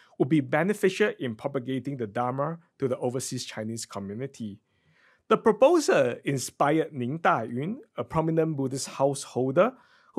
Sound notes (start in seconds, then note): 6.9 speaks in foreign language